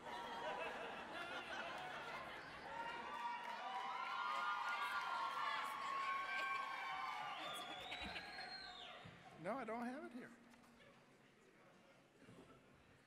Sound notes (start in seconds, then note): 0.2 audience laughing; 3.2 applause, cheering; 8.6 laughing